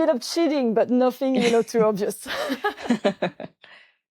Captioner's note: laughs